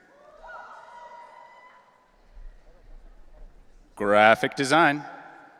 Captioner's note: audience cheering